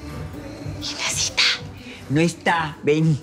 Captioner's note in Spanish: Susurra